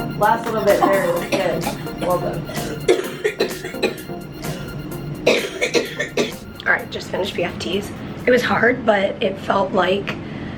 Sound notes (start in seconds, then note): 2.4 coughing